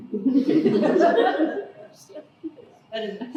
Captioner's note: laughter